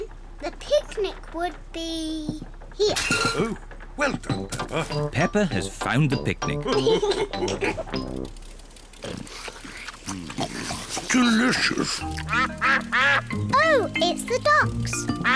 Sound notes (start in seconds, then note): 6.7 all laugh; 12.1 ducks quack